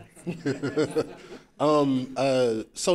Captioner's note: laughing